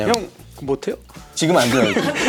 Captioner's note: scratch?